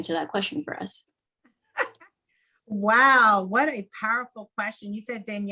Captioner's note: laugh